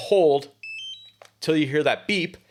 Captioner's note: device beeps